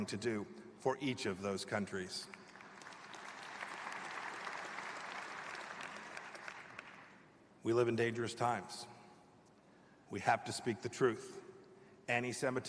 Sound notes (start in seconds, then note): 4.7 applause